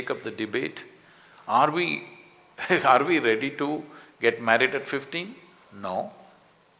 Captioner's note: laughs